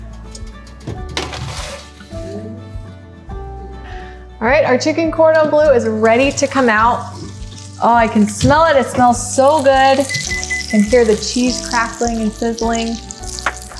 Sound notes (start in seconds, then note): 0.3 lighthearted music; 8.4 food sizzling